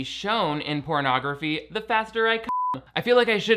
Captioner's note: beep